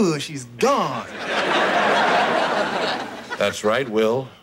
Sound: audience laughing

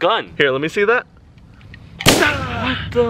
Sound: shoots

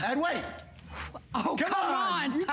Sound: laughter

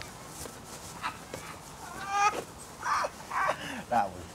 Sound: Dan and Martin laugh

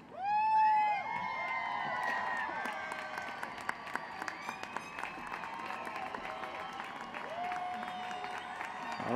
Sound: cheering and applause

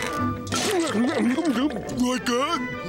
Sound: scarfing

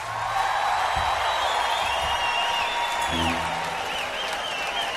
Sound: applause

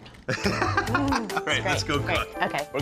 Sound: laughs

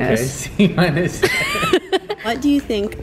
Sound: laughing

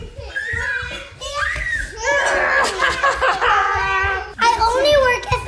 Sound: girls laughing and screaming

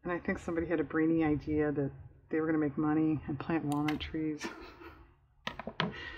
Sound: laughs

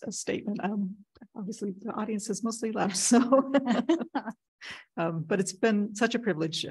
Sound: laughs

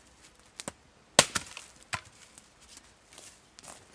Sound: bang

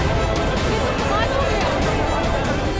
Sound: indistinct chatter

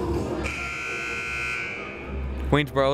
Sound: buzzer sounding

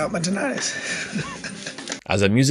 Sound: chuckles

